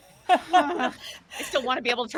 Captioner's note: laughing